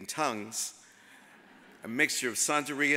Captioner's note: audience laughs